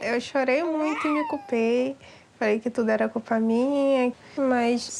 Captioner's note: speaks in foreign language